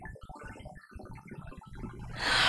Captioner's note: inhale